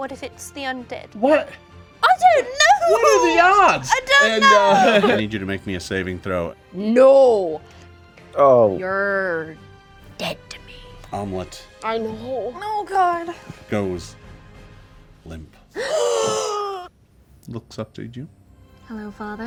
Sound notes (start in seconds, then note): 15.7 group gasps